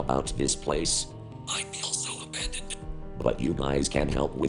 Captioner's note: whispering